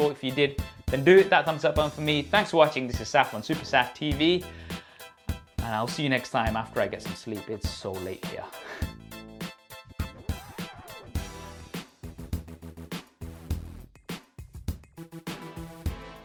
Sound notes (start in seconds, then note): 8.6 chuckles; 9.1 upbeat music